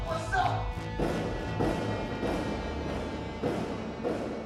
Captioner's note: banging on door